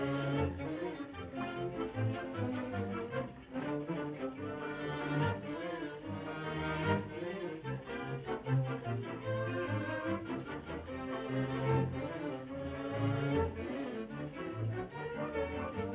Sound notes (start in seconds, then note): none